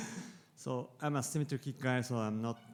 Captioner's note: audience member laughs